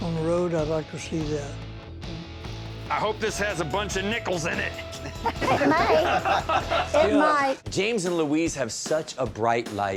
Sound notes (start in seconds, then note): 4.8 laughing